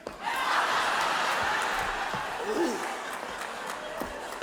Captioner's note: audience laughs